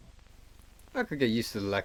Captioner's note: Static